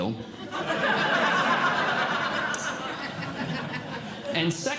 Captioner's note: audience Laughing